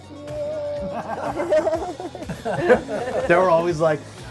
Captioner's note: laughter